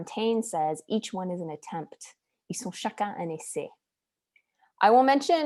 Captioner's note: speaking french